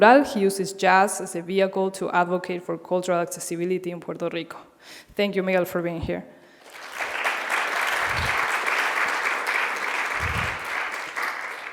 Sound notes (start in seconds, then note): 6.6 people clapping